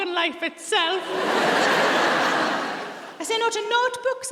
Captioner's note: audience laughs